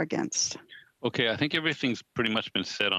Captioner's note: speaking French